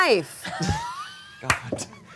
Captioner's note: all laugh